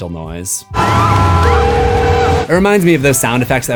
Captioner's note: screams